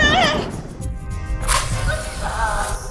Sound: matchstrike

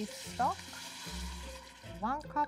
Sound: mixture sizzling

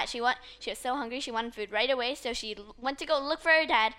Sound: none

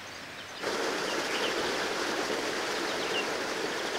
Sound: water sounds

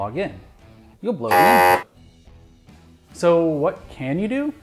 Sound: buzzer

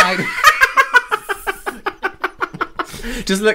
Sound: witches Cackle

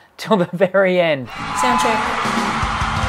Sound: cheers

